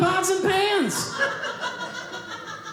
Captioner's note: audience laughing